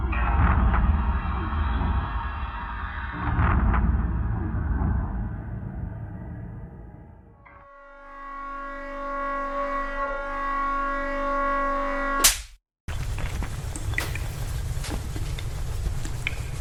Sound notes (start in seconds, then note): 7.9 brooding music; 12.3 item smacks; 13.0 items clattering